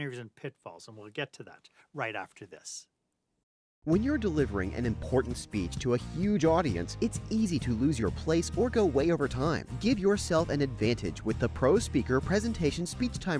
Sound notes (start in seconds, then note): 3.6 voiceover